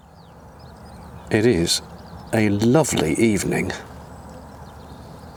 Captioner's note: birdsong